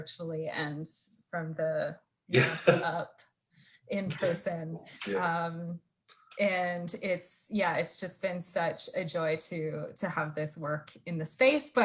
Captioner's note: laugh